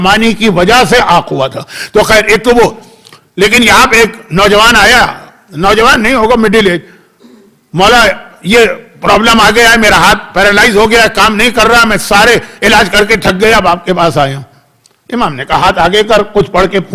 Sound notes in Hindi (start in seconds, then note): 7.2 गला साफ़ करने की आवाज़